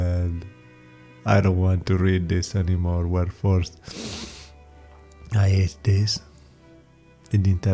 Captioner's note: snifs